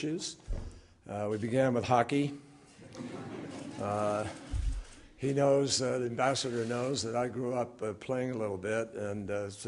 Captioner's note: laughter